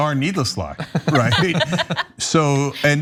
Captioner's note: laugh